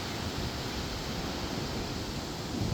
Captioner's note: waves crashing and wind and seagull cry